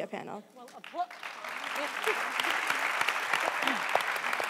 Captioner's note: applause